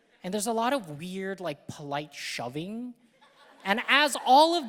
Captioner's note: audience laughing